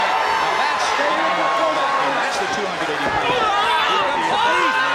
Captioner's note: audience cheers